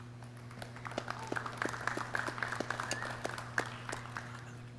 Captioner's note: clapping